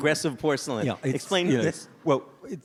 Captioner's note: audience laughs